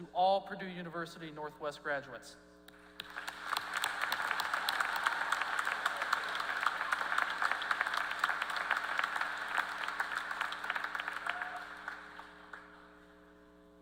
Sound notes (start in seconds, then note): 2.7 applause